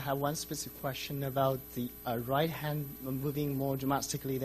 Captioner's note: voiceover